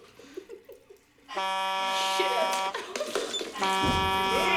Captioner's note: both Laughing; buzzer